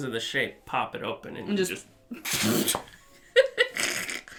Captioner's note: laughing